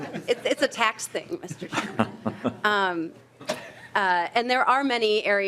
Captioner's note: laughing